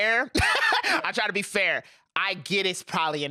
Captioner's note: laughs